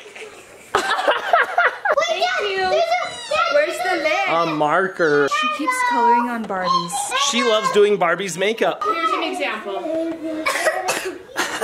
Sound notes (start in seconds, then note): 0.0 imitating liquid sounds; 0.3 people laughing; 1.9 child exclaiming; 8.9 children exclaiming; 10.2 child coughing